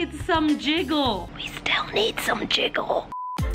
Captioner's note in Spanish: susurrando